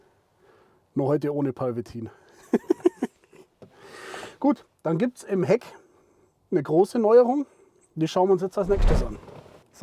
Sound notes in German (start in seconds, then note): 2.7 lacht